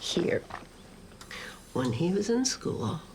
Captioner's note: machine pumps